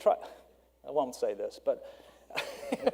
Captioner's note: laughs